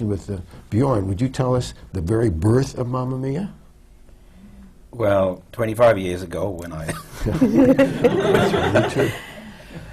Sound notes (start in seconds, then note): 6.9 laughter